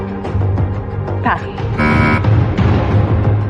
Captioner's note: buzzer sounds